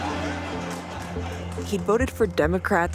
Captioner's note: audience laughs